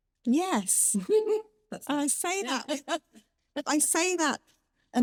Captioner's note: laughs